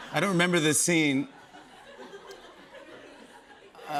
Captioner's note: laughter